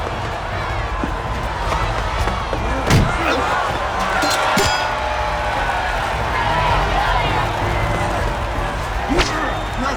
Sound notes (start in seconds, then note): 3.0 Gordian grunts